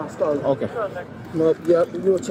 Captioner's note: radio chatter